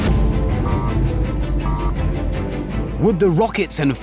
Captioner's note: beep, beep